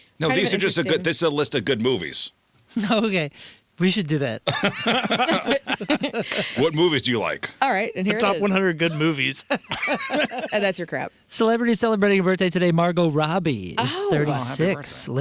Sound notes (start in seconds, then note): 4.4 laughing